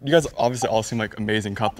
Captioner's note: clock ticking